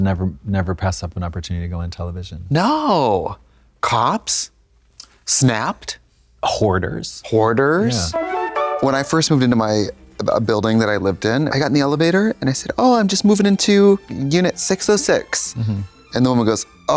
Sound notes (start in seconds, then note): 7.8 bright chime